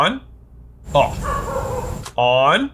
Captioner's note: dog barking